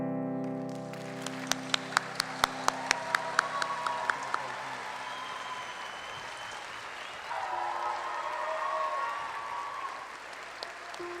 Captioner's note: applause